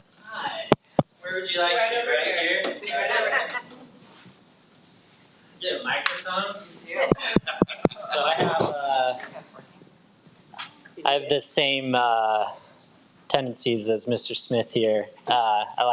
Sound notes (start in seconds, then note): 2.8 trustees laughs; 7.0 laughs